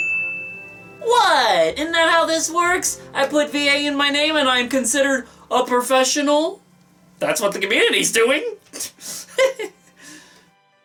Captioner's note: laughs